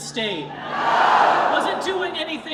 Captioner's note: crowd